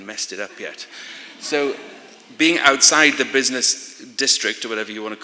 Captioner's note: laughter